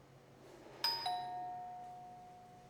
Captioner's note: doorbell